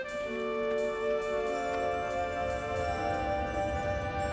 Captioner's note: rumbling